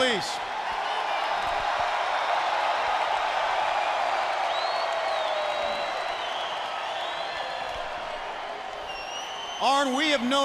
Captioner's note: crowd cheering